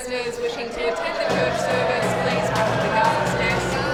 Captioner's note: jeering and yelling